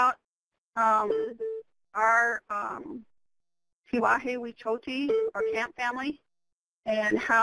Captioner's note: speaks foreign language